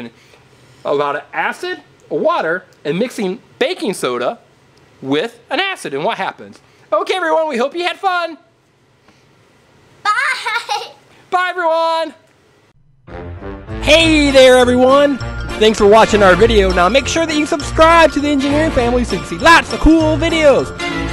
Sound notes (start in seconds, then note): 10.5 laughs; 13.2 upbeat horn music